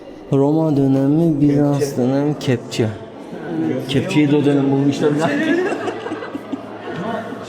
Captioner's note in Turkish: kahkaha